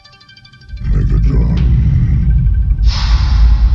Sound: slightly louder rumble

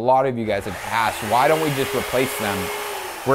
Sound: saw buzzing

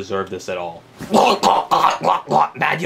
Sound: Mario gagging

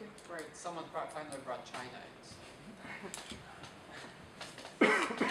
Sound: woman chuckles

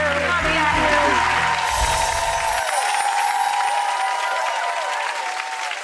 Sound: audience applauds and cheers

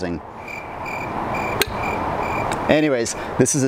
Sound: crickets

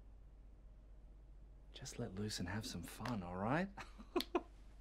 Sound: giggling

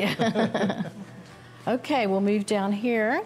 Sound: laughter

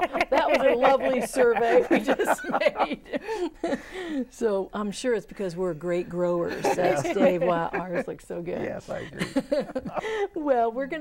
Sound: laughing

